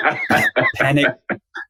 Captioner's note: laughs